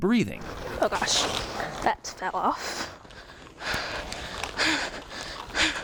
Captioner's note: heavy breathing